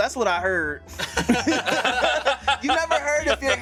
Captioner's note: everyone laughs